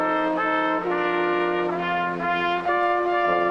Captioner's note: none